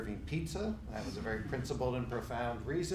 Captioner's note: laughing